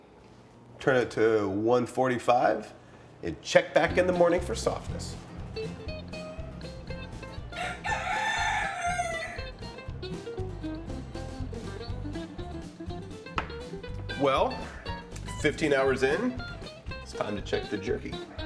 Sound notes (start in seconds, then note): 7.4 rooster crows; 9.4 guitar picking; 12.8 coffee cup clacks on counter